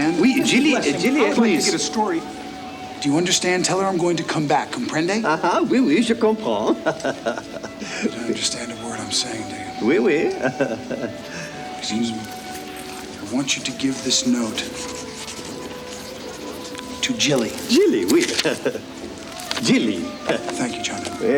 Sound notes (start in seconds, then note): 6.1 John speaks French; 9.9 chuckles; 18.8 chuckles